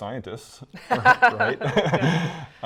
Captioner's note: both laugh